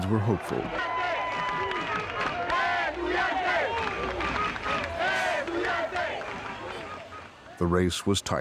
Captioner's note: chanting